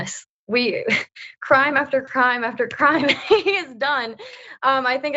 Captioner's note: laugh